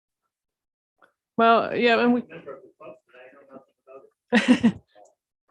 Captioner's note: chuckling